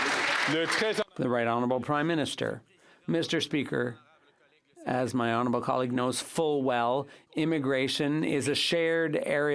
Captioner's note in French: applaudissements